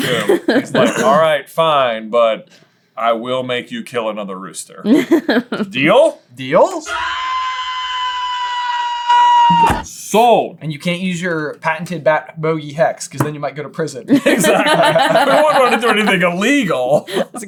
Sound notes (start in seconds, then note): 6.8 screeeeeeeeeeeeeeeeeeeeeeeeeeeeeam